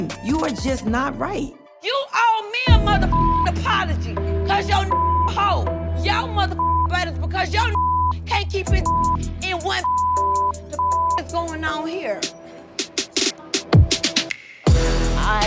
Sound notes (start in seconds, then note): 4.9 beep; 6.5 beep; 8.8 beep; 14.6 dramatic music